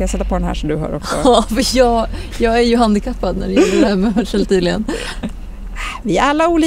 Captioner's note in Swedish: skratt